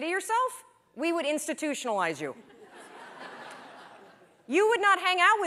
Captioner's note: laughter